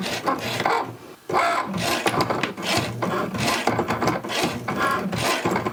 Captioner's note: machine whirring continues